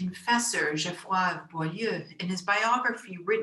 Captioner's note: speaks in foreign language